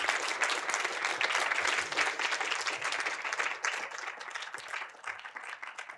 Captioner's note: audience continue applauding